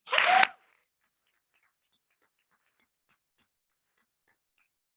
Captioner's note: members clapping